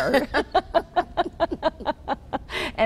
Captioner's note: laughing